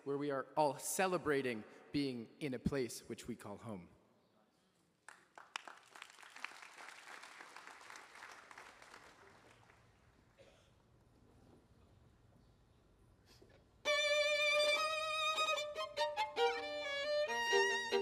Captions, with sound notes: where we are all celebrating being in a place which we call home. (attendees applauding) (gentle spirited music)